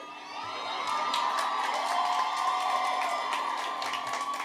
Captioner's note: audience cheering